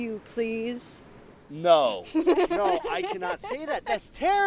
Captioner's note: starts laughing